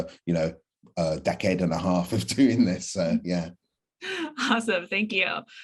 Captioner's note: chuckle